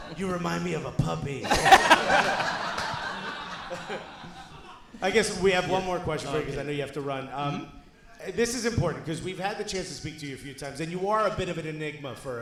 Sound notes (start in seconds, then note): 1.4 audience laughing